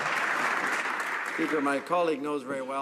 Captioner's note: some Applause